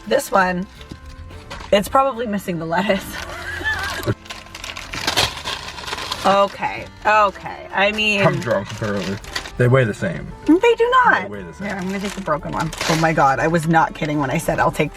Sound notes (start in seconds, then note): 3.0 laughs; 4.4 paper rustling